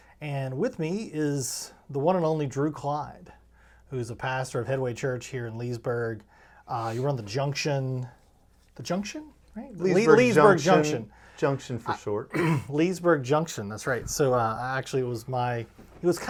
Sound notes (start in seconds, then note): 12.3 clears throat